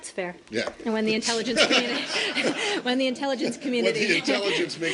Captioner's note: laughter